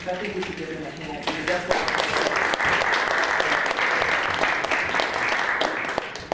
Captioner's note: applause